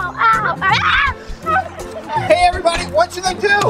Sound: Ryan screaming

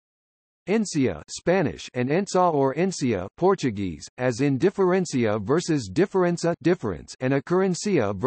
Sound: Spanish

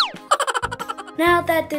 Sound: giggling noises

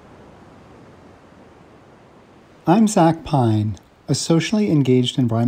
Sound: ocean wave sounds

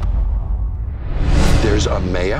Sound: dramatic music intensifies; transition whooshes

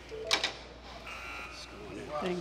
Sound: buzzer sounds

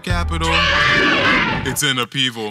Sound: animal noises

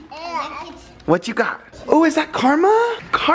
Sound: chattering

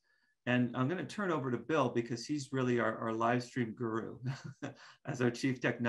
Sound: chuckles

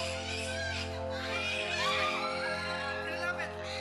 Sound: screaming

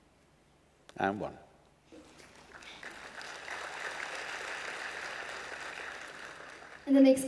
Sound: applause

